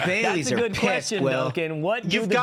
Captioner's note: laughter